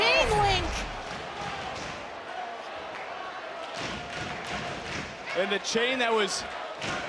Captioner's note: audience cheering